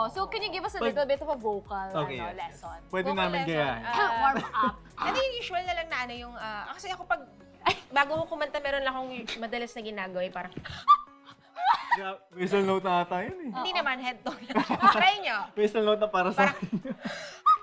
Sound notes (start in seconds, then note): 10.6 laughs; 11.2 high-pitched squeak; 14.3 laughs